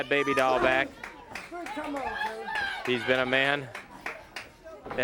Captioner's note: crowd chatter